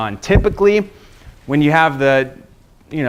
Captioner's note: none